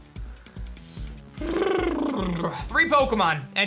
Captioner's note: lip bubbles